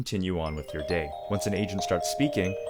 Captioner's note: phone rings